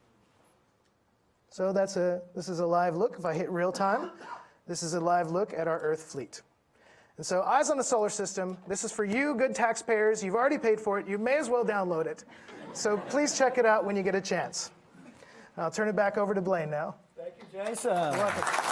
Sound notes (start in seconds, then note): 12.2 audience laughing